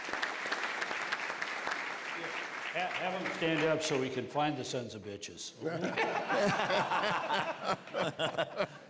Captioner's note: applause